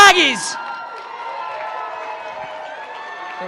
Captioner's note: cheering